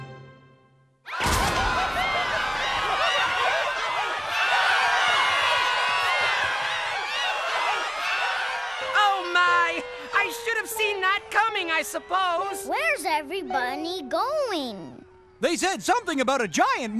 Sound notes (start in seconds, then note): 1.0 screaming